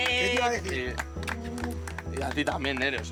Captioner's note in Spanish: aplausos